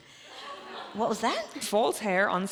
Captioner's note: audience laughs